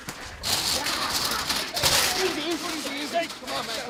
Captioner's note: crashing